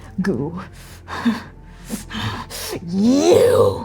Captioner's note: breathing heavily